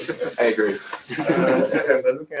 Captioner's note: laughter